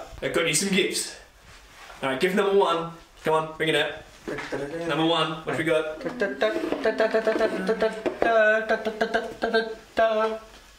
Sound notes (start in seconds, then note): 6.0 mimics drum roll